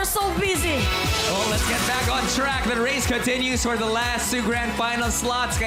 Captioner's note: none